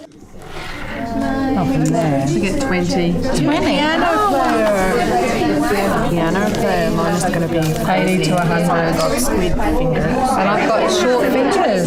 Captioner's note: audience chatter